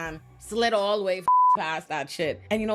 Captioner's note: beep